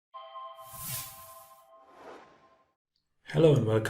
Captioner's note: sound effect